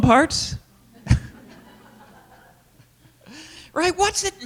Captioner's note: laughter